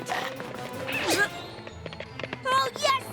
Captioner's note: chomp!